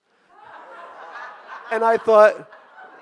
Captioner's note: audience laughing